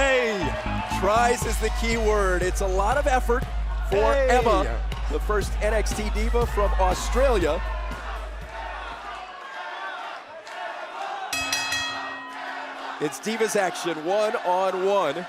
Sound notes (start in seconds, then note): 10.5 crowd cheering; 11.3 bell ringing